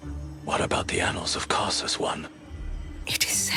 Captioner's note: whispers; whispers